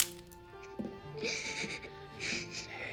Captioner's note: sobbing